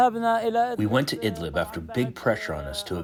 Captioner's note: through translator